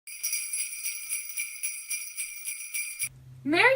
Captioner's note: bells jingling